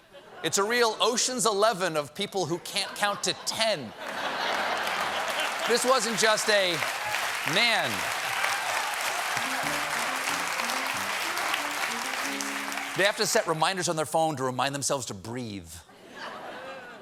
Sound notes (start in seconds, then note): 8.7 cheers and applause; 9.4 piano riff